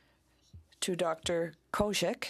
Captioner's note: speaking in French